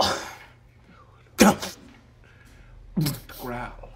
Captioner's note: grunts